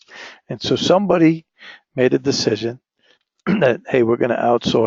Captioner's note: cough